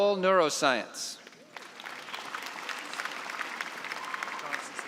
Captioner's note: applause